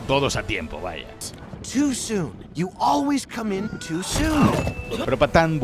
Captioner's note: hiccup